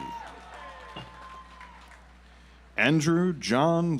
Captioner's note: audience applauds